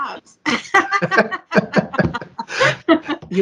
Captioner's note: laughs